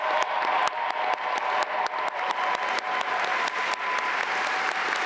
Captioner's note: audience cheer and applaud